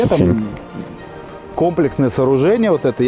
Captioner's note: sarcasm